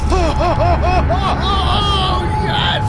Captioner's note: Lennox laughs